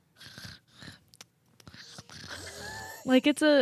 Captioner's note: imitates light snoring